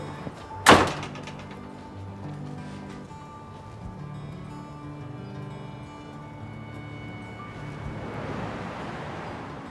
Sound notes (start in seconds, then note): 0.0 door slamming; 4.3 calming music